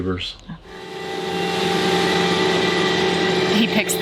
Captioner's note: lawn mower revving